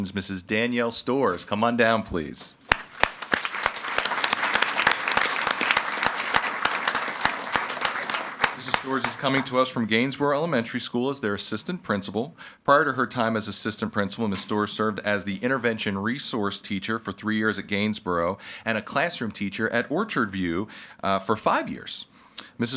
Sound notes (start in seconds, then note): 2.6 audience applauding